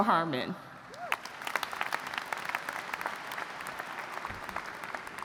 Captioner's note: audience applauds